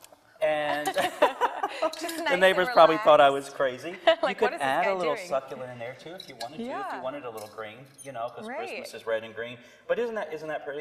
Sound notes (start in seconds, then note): 0.6 both laugh